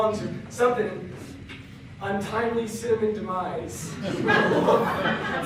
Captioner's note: click